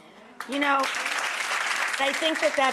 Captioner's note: audience applauds